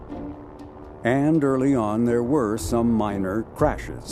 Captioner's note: aircraft engine roaring